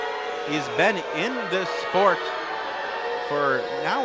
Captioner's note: crowd booing